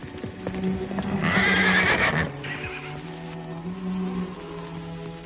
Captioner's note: horses neighing